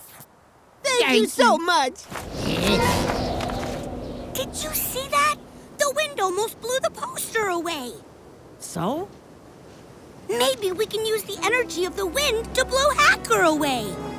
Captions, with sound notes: - Thank you. - Thank you so much. [wind rushes] - Did you see that? The wind almost blew the poster away. - So? - Maybe we can use the energy of the wind to blow Hacker away.